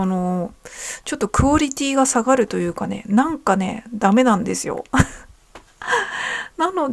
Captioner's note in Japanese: 笑い; 息をのむ音